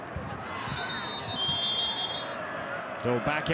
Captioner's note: referee blows whistle